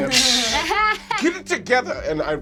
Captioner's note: laughing